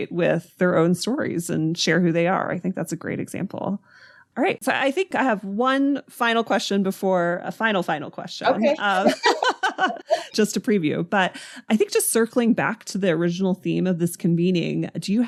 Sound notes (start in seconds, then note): 8.4 laughing